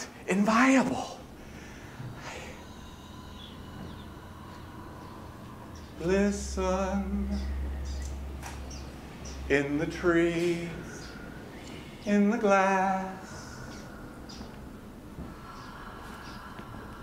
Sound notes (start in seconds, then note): 4.3 A bird is chirping outside the window